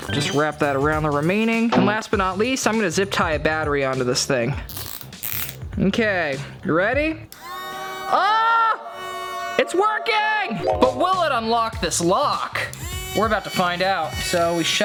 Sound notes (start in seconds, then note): 4.8 tie zipping; 7.3 motor whirring; 12.8 motor whirring